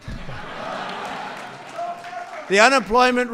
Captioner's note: laughter